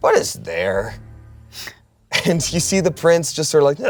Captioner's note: laughs